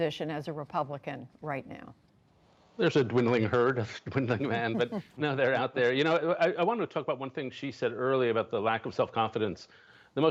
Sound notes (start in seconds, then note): 4.3 laughter